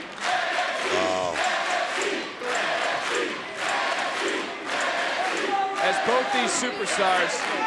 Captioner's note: applause